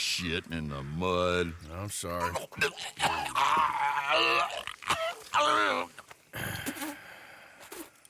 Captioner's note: Compson starts to vomit violently, and Arthur gets up and sighs